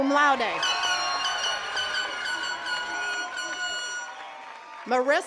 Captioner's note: attendees cheering and clapping